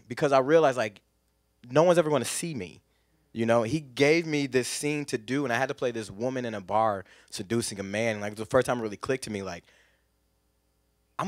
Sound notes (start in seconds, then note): none